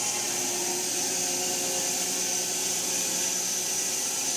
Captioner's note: mill whirring